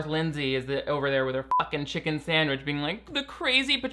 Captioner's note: beep